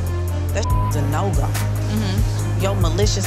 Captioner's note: beep